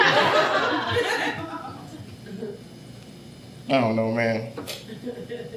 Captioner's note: audience laughing